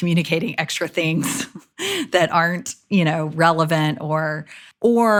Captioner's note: chuckles